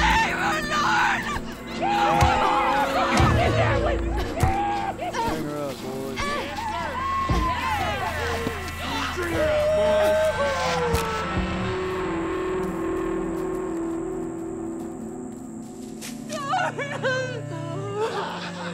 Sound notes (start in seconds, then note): 1.7 men whooping; 2.1 blows landing; 8.8 men whooping; 16.3 sobbing